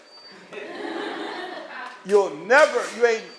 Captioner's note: laughter